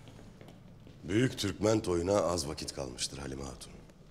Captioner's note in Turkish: none